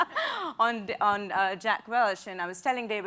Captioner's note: laughs